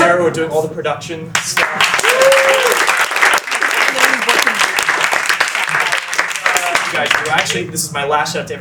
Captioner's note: more cheering